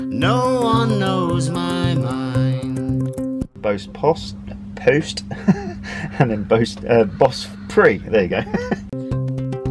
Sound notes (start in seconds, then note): 4.6 giggle; 7.9 laughs